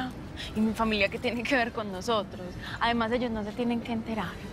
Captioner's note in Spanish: none